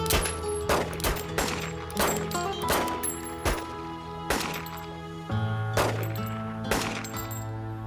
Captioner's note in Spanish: Disparos